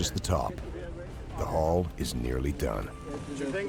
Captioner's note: voiceover